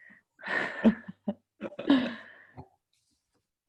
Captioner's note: laughs